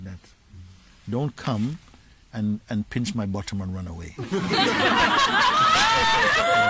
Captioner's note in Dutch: gelach